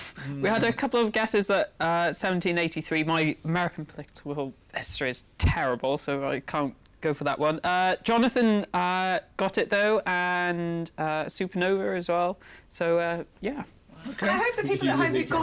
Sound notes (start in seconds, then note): none